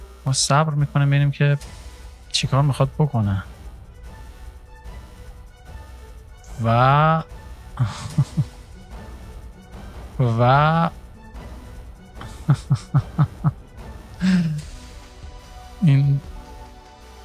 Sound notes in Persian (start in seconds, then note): 12.2 خنده